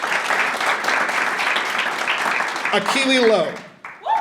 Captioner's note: audience applauding